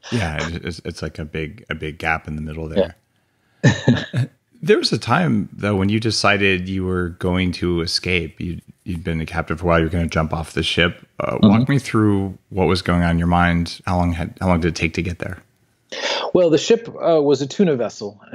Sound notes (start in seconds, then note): 3.6 laughs